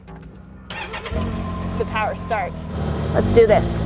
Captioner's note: machine Engine Starts